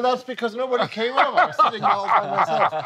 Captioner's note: laughing